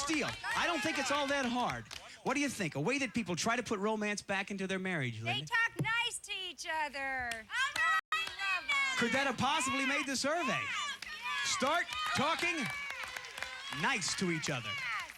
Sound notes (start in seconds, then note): 7.2 cheering